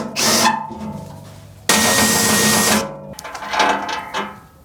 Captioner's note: drill whirring